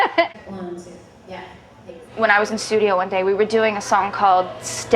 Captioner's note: laughter